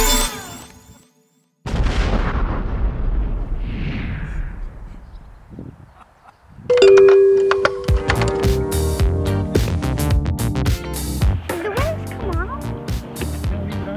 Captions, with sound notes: *blastoff sound effect* *ding dong* Did the wings come off?